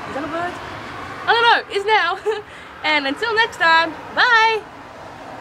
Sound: laughs

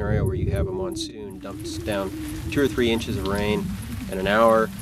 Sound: storm

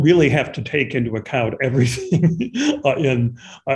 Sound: chuckles

